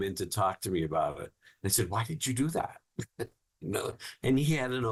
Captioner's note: laughing